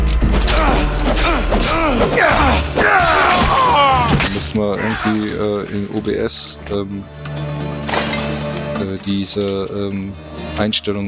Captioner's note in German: stöhnen; schreien